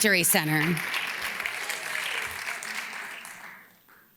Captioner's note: audience claps